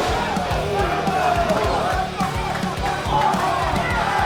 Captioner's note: A loud slap as Mariposa hits the mat hard; crowd gets louder; audience member yelling at the referee all mad